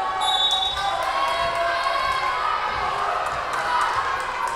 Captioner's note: whistle blowing